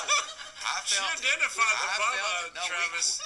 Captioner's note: laughter